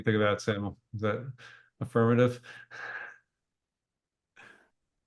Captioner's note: laughs